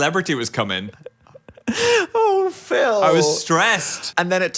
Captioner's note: laugh